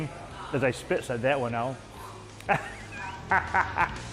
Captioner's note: laughs